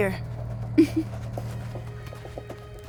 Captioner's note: giggles